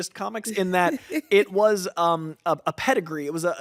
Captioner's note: laughs